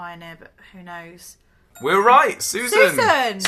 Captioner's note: dings